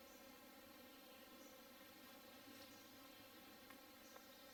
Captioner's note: faint bird chirping